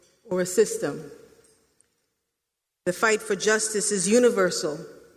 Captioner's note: none